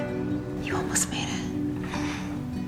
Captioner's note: voiceover; whispering